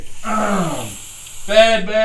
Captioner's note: groans